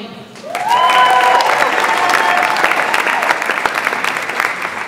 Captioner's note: audience applauds and cheers